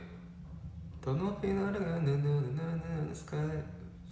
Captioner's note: hums